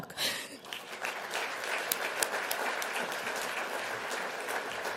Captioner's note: applause